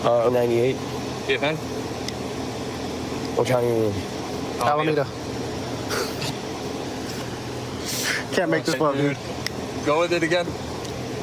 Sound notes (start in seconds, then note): 5.0 laughs